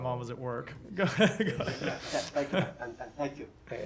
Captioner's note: laughter